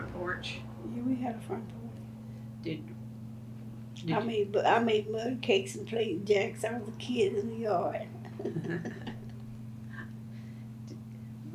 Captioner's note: laughs